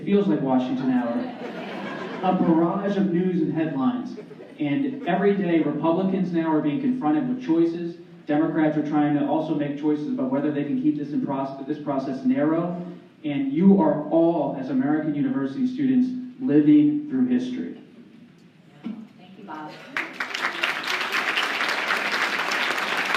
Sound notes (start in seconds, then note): 19.7 applause